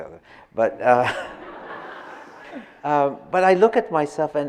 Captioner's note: audience laughing